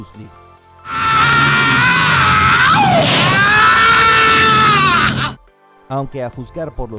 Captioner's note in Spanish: Gritos